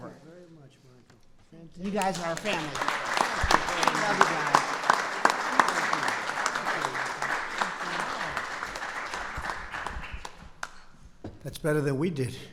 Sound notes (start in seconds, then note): 6.3 applause